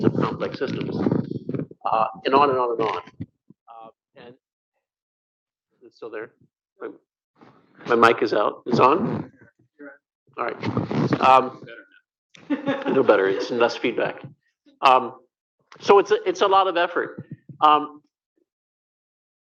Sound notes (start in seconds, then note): 12.4 laughter